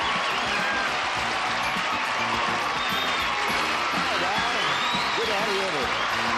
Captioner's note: applause